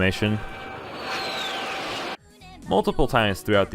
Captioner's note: jet engine sound in japanese